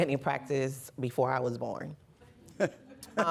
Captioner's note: laughter